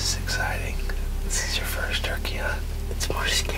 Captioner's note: whispering